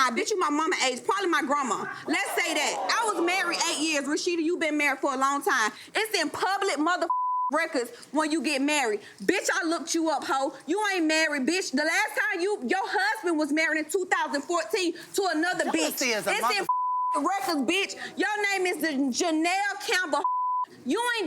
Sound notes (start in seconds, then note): 7.1 beep; 16.6 beep; 20.2 beep